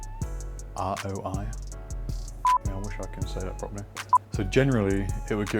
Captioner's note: beep